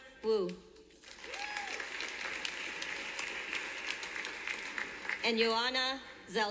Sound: clapping from audience

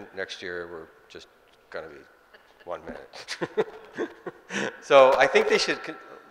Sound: laughing

